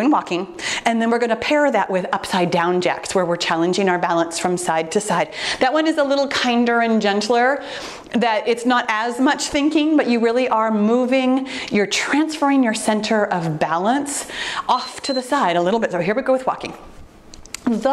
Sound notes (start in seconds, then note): 14.6 timer beeps